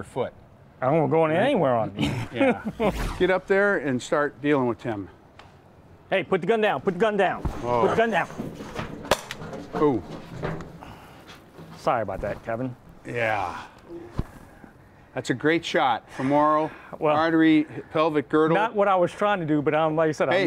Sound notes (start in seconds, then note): 1.9 chuckles; 2.8 dramatic transition noises; 9.0 gun shot